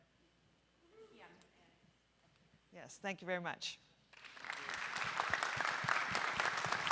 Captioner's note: applause